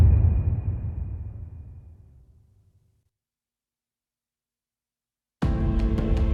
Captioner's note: dramatic sound